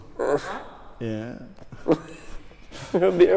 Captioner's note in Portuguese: risos